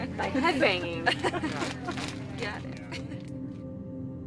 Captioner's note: laughs